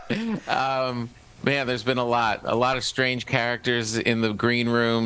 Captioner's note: laughter